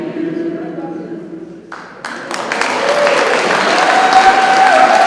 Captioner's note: crowd cheering